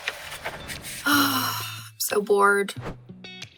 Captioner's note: sighing